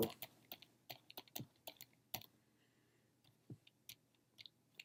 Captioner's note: typing